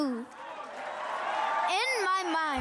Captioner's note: audience applauding